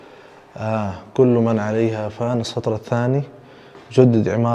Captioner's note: Arabic